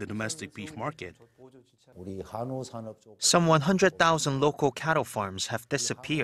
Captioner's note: Korean